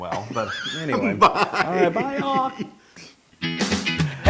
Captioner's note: laugh